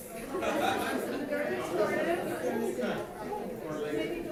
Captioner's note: audience laughing